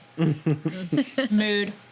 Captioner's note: laughing